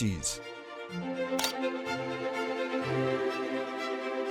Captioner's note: shutter clicks